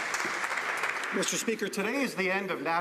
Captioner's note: some Applause